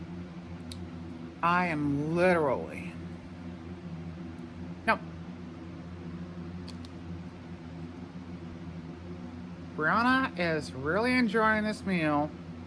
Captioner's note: normal voice